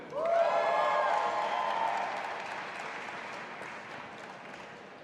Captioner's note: audience applauding